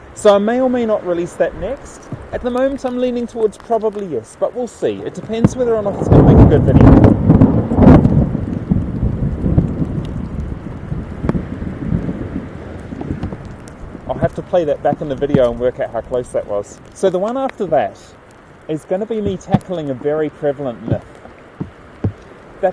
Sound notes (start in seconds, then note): 10.8 thunder cackles like an elephant-sized duck